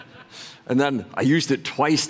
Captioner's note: laughter